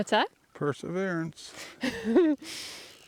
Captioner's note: laughing